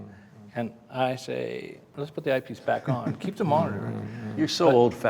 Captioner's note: everyone laughs